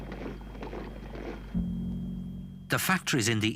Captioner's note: boots thudding